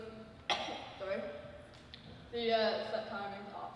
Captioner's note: coughs